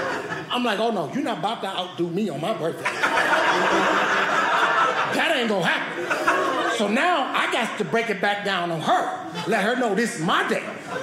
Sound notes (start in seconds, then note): 2.7 audience laughing